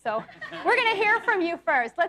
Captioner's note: audience laughs